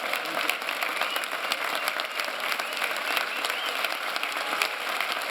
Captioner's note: applause